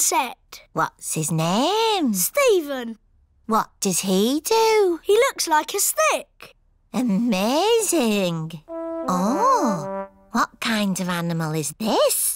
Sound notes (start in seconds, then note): none